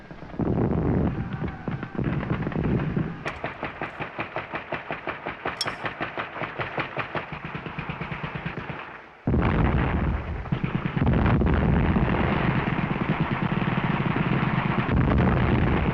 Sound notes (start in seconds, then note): 3.0 continuous gunfire